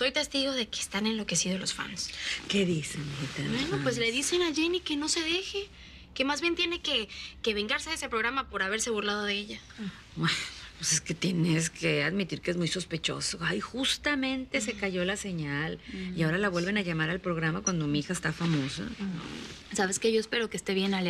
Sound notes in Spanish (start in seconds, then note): none